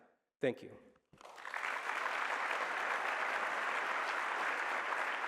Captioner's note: applause